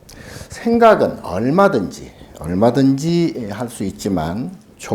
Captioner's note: speaking Korean